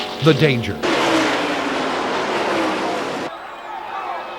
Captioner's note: engine roars